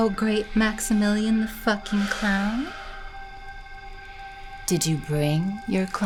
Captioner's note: Cornelius sighing